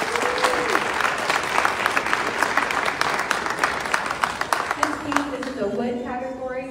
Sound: clapping

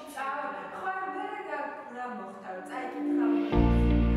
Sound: staff chatting

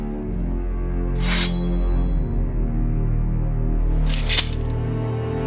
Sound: sword unsheathes; sword clinks

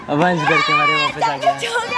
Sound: cheering loudly

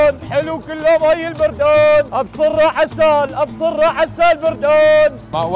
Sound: continues shouting

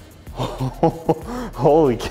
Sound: laughing

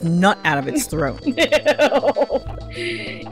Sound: laughing

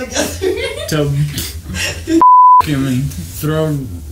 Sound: beep

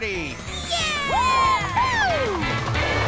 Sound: cheering

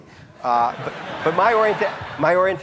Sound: audience laughing

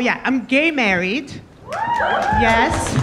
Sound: audience members cheering

